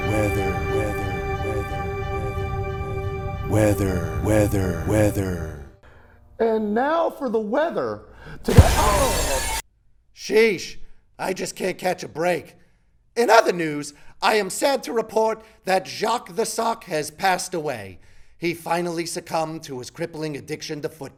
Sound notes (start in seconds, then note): 8.4 glass breaks; 8.6 groans